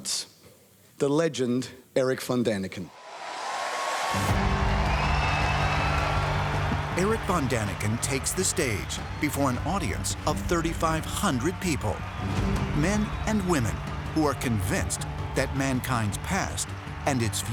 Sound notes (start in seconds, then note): 2.8 applause